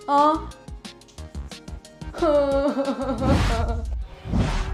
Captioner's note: Daisy cries miserably